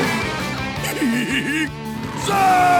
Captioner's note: giggles